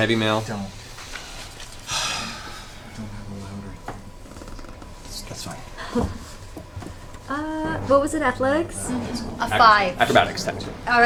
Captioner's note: nervous laugh